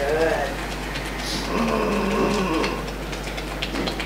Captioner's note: fingers tapping; growls